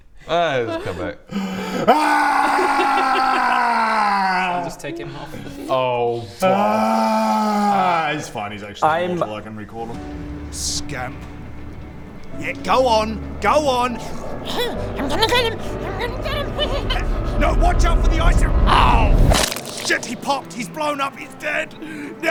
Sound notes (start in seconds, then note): 19.3 squish